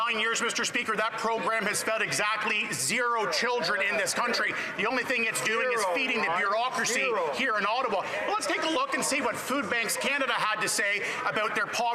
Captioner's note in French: voix de l'interprète